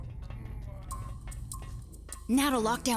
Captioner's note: moaning